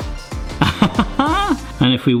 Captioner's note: laughs